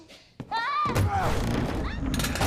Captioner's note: screams